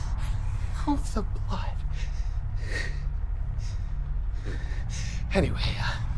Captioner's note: pants